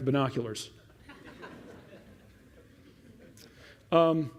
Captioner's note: laughter